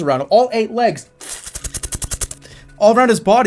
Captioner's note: spider noises